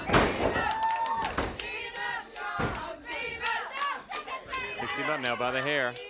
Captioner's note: audience chants